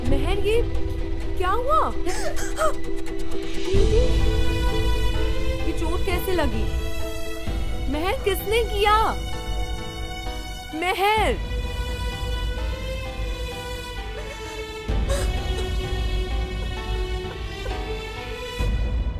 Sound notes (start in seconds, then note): 2.1 Meher groans; 14.0 Sobbing